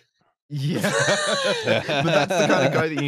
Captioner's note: laughter